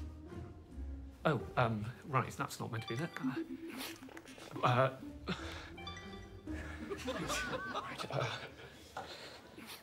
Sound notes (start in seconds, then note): 3.4 chuckles; 6.6 laughter